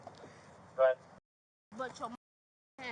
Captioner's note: radio chatter